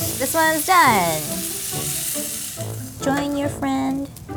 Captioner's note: meat sizzling